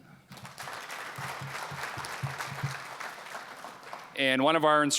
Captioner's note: applause